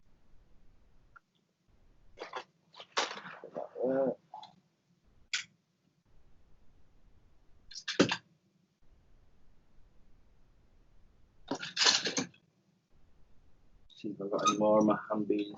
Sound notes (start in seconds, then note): 6.2 metal is clanking on metal, as clothing is being taken off and put back on rack